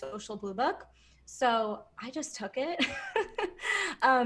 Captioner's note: laughs